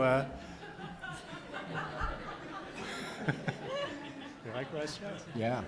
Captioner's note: audience laughs